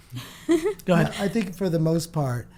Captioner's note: laughs